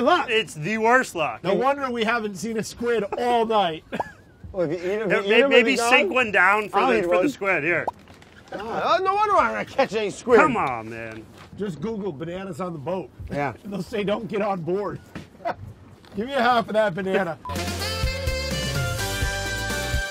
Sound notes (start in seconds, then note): 15.3 laughs; 17.4 upbeat music